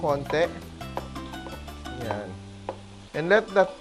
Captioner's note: knock